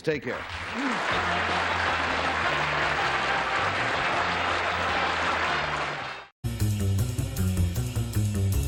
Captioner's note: applause